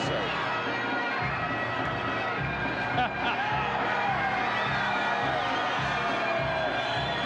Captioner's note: percussive music; audience cheering